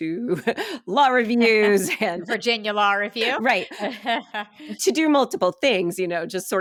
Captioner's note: laughing